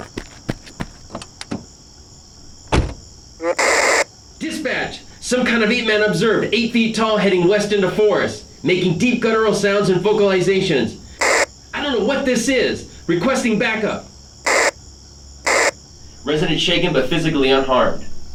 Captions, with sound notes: (Car door opens and shuts.) Dispatch, some kind of ape-man observed, eight feet tall heading west into forest, making deep guttural sounds and vocalizations. I don't know what this is. Requesting back-up. Resident shaken, but physically unharmed.